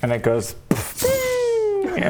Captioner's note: boof!